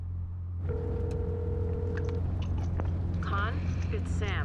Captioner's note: phone ringing